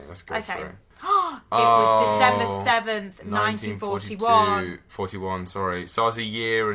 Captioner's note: sighs